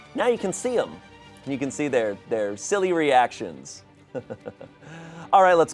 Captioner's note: chuckles